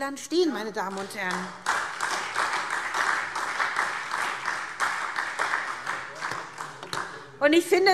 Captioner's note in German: Beifall